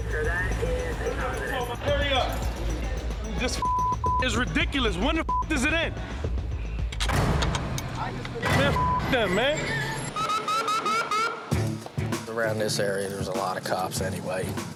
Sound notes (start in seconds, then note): 10.0 siren